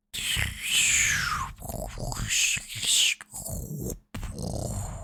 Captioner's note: mocking blastoff